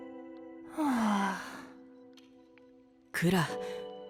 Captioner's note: sigh